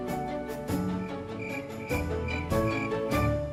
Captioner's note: crickets chirp